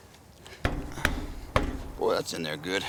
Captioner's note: metal thudding